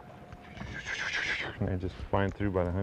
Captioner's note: flying noise